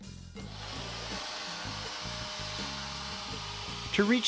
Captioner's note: whirring